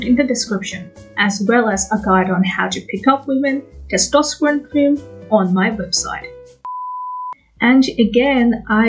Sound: beep

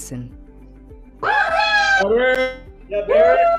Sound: cheering

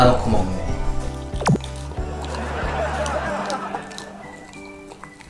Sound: laugh

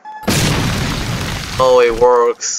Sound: explosive sound effect; objective sfx

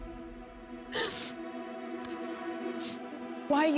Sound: sniffles

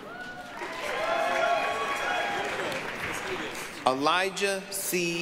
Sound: applause, cheering

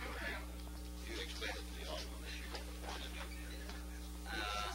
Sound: voice off camera

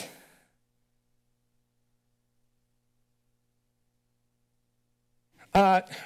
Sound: silence

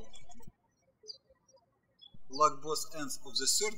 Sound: birds chirping

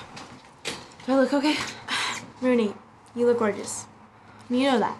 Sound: sharp exhale

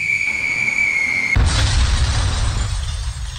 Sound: 💥 Explosion 💥; bursting glass

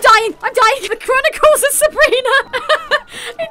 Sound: laughing

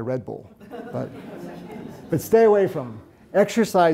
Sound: audience lightly chuckles

